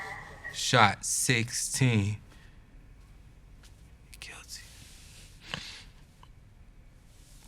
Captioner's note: whispering